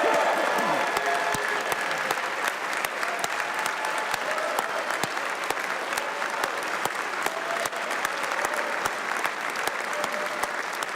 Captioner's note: applause